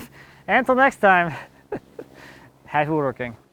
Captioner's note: chuckles